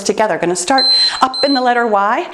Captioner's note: timer beeping